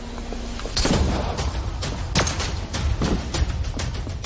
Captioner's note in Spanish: Disparos